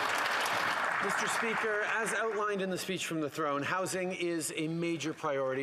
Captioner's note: applause